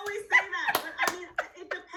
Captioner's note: laughs and claps